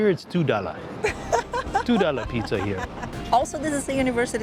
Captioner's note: laughs